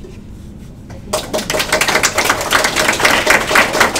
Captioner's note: applause